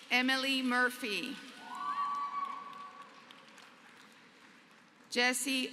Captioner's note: applause